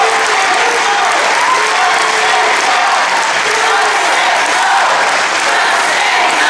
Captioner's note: crowd cheers "just say no!"